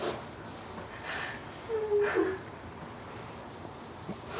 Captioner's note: crying